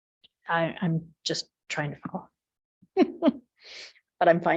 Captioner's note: chuckles